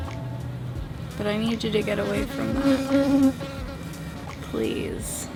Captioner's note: bee buzzing